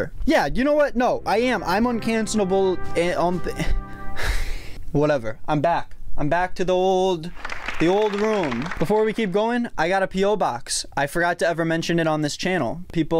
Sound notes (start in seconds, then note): 7.3 applauding